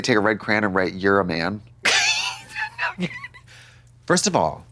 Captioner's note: Katya stammers